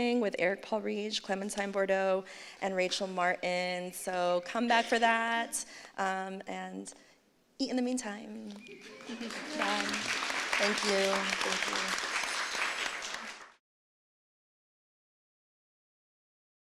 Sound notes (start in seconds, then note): 8.8 laughter; 12.0 applause